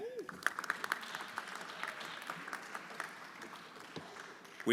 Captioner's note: everyone applauding